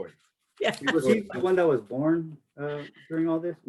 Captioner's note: laughs